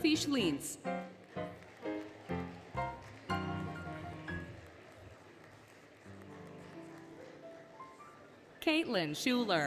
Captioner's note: applause, Music